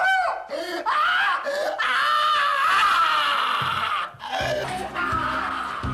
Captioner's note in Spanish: Grita